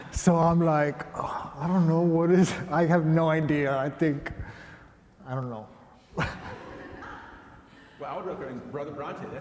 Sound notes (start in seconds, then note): 6.1 laughter